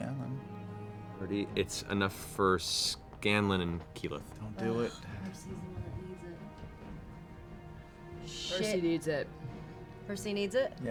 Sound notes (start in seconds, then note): none